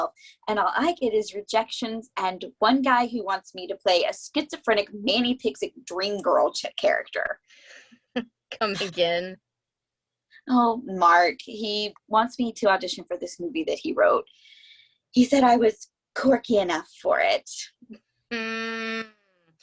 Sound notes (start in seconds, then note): 8.6 chuckles